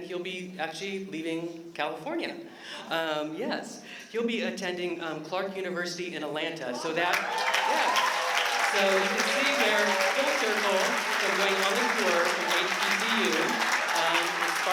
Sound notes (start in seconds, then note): 6.8 applause